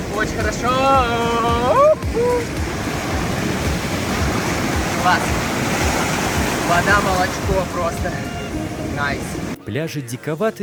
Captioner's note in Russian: шум океана